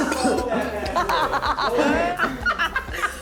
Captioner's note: laughing